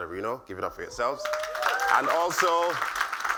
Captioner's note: applause